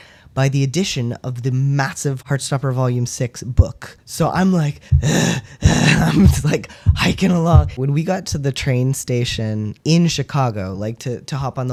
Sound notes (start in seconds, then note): 4.8 labored breathing